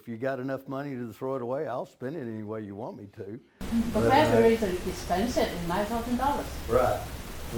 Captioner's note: audience member speaking